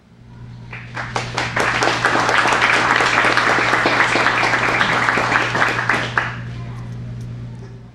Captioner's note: applause